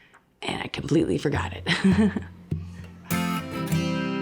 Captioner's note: ha, ha; guitar strumming